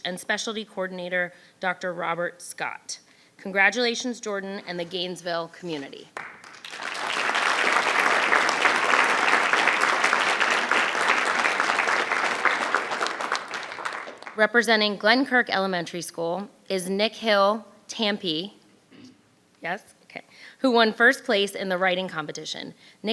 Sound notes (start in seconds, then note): 6.1 audience clapping